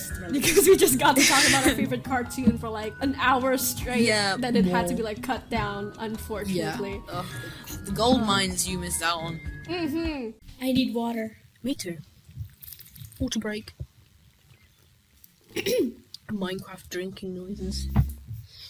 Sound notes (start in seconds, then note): 12.2 slurping sounds; 15.5 clears her throat